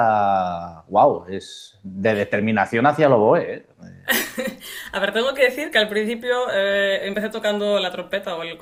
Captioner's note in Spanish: risas